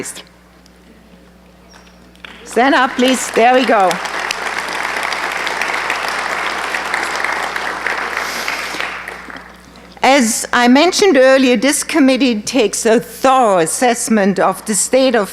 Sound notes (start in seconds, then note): 5.3 applause